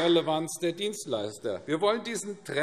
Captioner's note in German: Beifall AfD